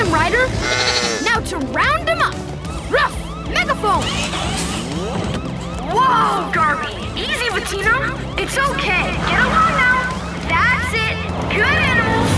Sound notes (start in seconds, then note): 4.2 sirens blaring